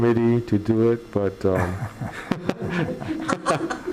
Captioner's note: laughing